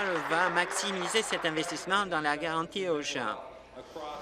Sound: applause

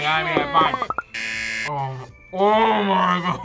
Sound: buzzer; laughs

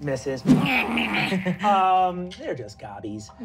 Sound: growling evilly

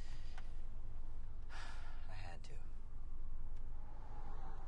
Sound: sighs

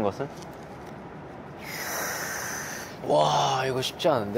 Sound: inhaling

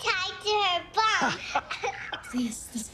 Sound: laughter

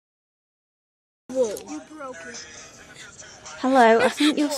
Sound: boy makes squealing sound

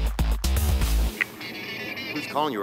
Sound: phone rings

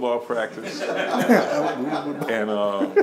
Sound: laughing

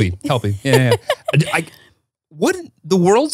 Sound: laughing

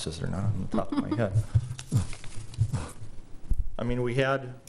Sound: laughing

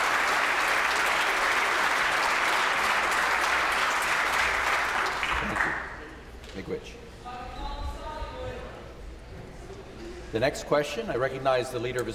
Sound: some Applause

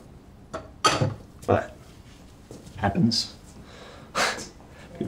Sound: chuckles

